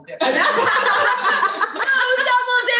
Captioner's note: laughing